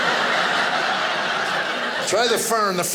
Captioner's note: audience laughing